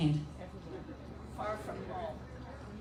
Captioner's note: crowd